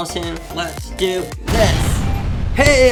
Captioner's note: exploding boom